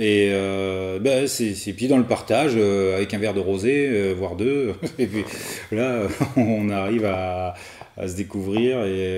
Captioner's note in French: rires